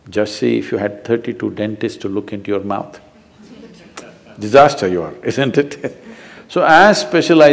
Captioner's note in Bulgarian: смехове в публиката; смях